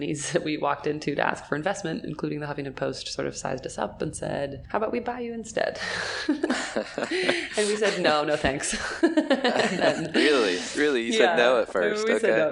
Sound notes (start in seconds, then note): 6.0 chuckles; 8.7 laughing